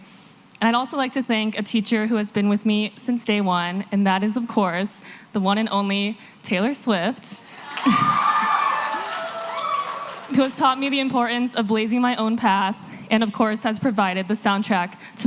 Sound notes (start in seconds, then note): 7.5 cheering